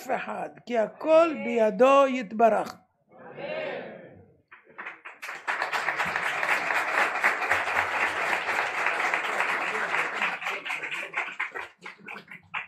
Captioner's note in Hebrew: מחיאות כפיים